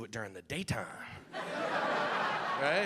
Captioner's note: audience laughing